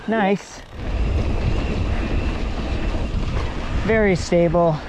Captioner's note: bike humming; dirt rustling